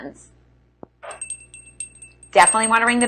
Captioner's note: bell ringing